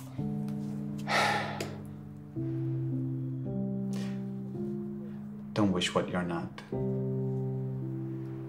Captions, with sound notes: (Flavio sighs) - Don't wish what you're not.